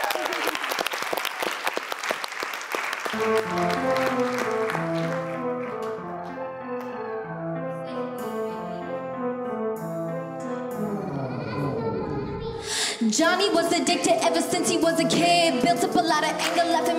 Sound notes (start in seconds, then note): 0.0 applauding; 3.1 upbeat music